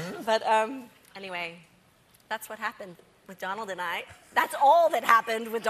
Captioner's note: laughter